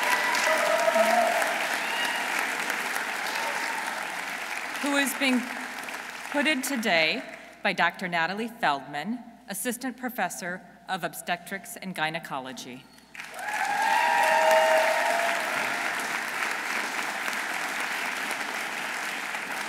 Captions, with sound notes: Who is being put in today by Dr. Natalie Feldman, assistant professor of Obstetrics and Gynecology. -(audience cheering) -(audience applauding)